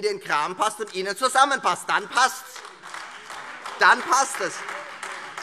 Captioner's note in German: Lebhafter Beifall Freie Demokraten und AfD